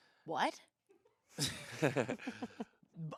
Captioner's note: laugh